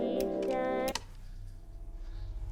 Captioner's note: clicks off